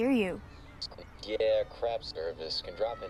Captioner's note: on phone